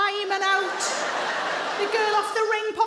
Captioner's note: audience laughing